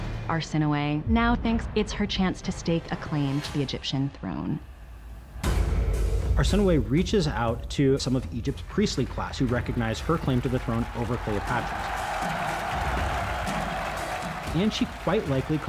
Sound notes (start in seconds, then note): 13.0 crowd cheering